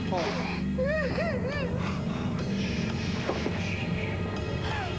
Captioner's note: pleurs